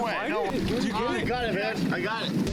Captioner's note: indistinct chatter